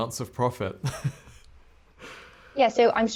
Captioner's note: laughs